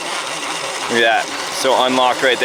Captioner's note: tires spinning